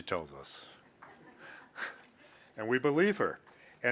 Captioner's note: laughing